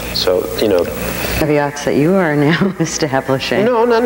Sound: laughing

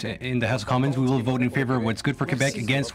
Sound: speaking French; voice of translator

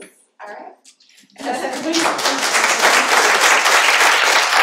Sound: applause

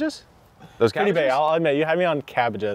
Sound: voice muffling

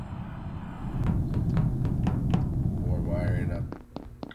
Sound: footsteps

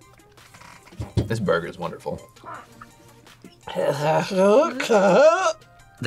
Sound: gags

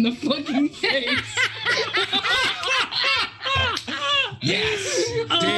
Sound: group laughs

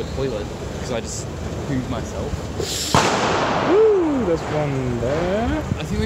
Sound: explosion

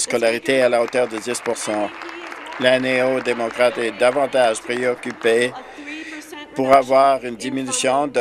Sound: some Applause

